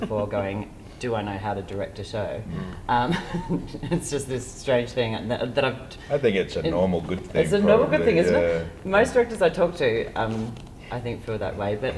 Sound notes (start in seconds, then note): 3.0 laughter